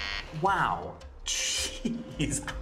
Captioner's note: پێکەنین